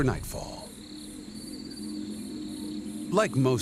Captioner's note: crickets chirping